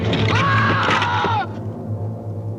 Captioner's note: Charlie screams